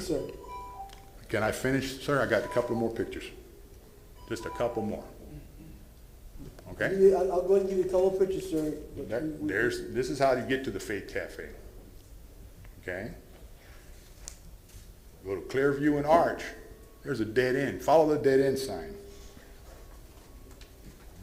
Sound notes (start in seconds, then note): 4.2 bell sounds